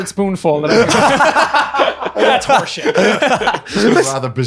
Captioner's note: laughing